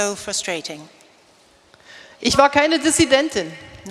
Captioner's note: speaking in German